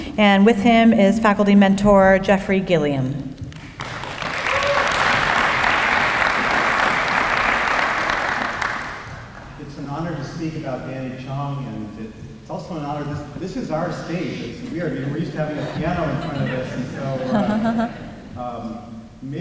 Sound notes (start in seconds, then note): 3.5 applause